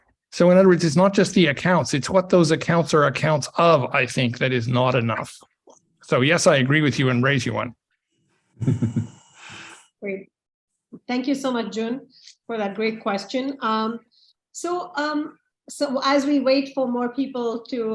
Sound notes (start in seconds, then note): 8.6 chuckles